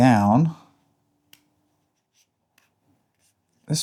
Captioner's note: silence